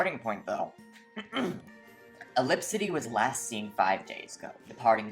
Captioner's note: clears throat